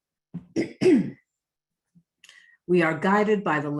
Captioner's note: clears throat